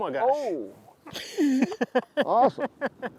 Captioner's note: laughing